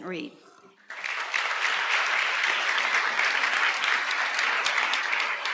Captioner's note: applause